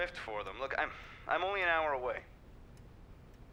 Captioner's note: exhales